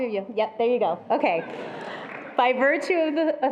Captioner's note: attendees laughing